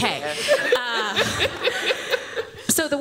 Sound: laughter

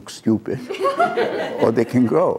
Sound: laughter

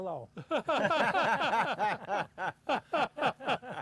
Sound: all laughing

